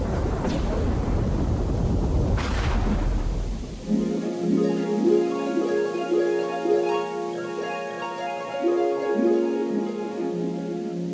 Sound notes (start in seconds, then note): 0.0 thunder; 3.8 harp